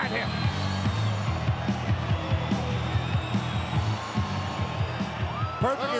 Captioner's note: crowed cheering; frenetic music continues